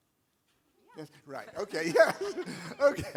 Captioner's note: laughter